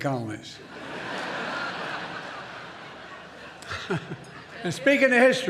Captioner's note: laughter